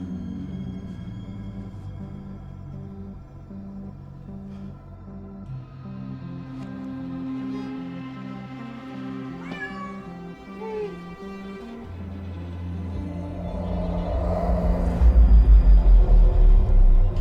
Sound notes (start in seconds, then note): 9.2 meowing